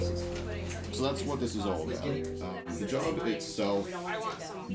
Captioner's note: sounds of busy office